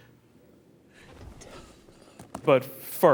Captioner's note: whispering